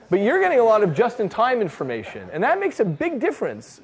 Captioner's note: none